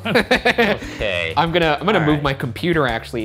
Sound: laughter

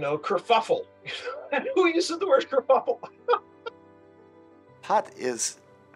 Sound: laughs

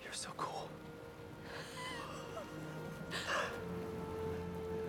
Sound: laughs

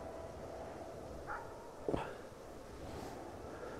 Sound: dog barking

